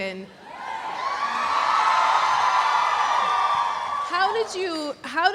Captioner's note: audience cheering